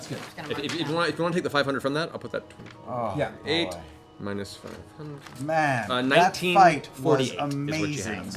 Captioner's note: mutters quietly